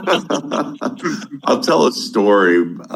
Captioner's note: laughing